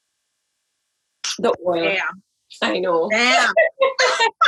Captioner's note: laughs